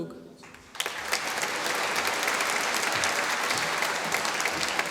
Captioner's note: applause